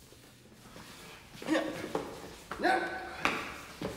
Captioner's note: grunting